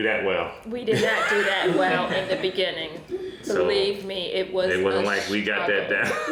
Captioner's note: pops